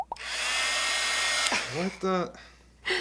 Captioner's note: heat gun noises